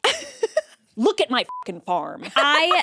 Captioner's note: beep